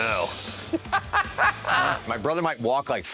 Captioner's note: Mike laughs